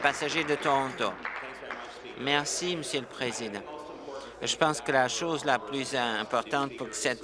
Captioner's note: applause